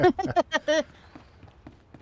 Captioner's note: laughter